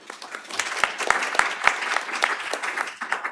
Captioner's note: applause